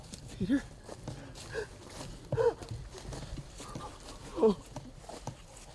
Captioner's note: jadeando